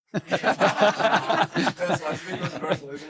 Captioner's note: laughs; audience laughing